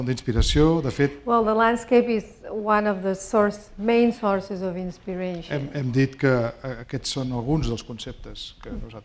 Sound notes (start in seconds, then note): 6.2 speaking spanish